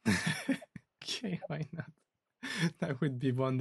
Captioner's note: laughs